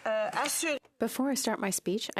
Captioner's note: speaking French